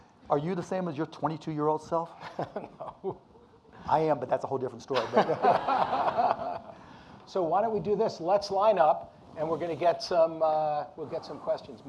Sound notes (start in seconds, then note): 2.2 laughs; 5.0 audience laughing